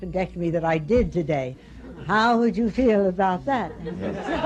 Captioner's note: laughter